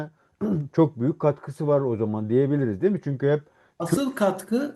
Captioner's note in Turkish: boğazını temizler